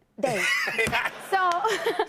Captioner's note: laughter